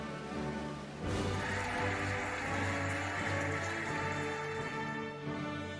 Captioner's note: cheering and applauding